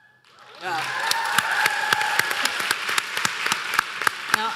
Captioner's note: applause